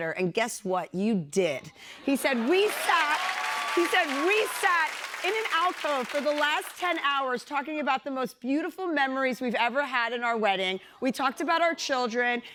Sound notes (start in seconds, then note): 2.2 cheers and applause